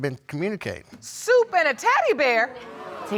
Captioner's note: audience gasps